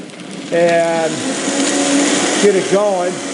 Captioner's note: blender whirring faster